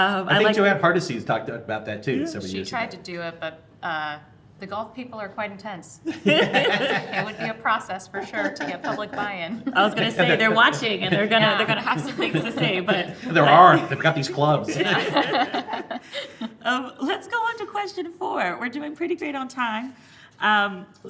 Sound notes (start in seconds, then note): 6.0 laughing; 14.9 all laughing